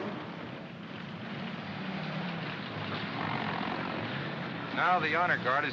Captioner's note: vehicles rumbling